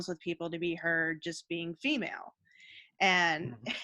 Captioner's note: chuckling